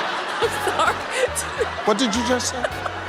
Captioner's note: laughs